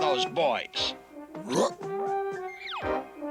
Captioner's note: ruff